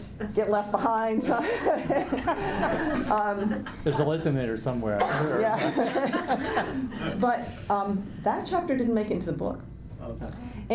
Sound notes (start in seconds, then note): 1.4 laughs; 5.1 laughs